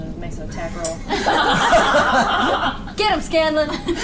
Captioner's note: all laugh